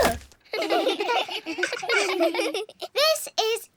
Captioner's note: all giggle